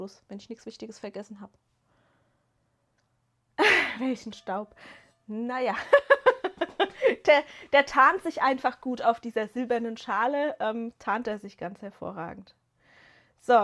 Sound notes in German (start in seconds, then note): 5.7 gelächter